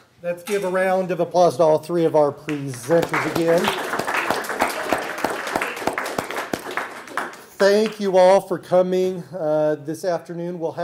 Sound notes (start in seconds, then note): 2.4 applause